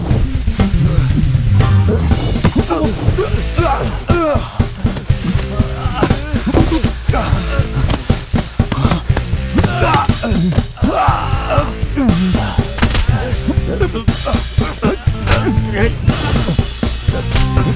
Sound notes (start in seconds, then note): 9.5 groans